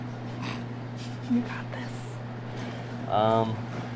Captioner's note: whispering